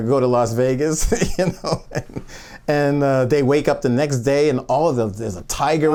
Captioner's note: laughs